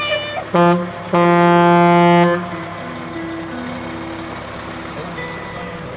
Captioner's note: horn loudly honks; engine purring